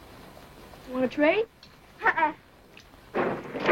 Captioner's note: thunder claps